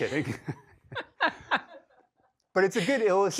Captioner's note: laughs